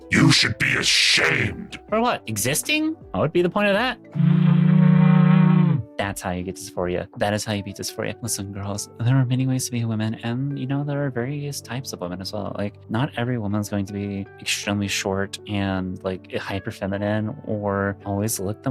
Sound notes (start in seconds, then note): 4.2 groaning